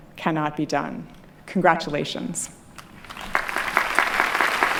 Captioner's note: clapping